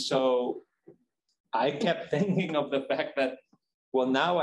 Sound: chuckles

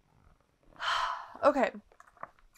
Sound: sighs

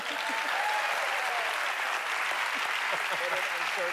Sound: applause; laughs

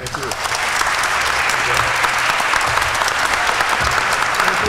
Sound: applause

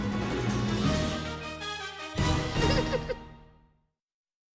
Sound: laughing

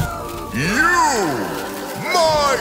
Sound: shrieks in pain; shrieking continues

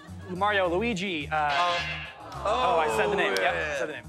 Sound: buzzer; audience ohs

